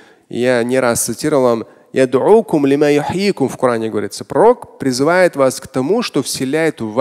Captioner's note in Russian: говорит на арабском